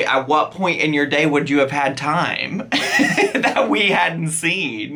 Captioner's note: laughs